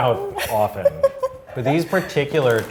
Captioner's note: laughing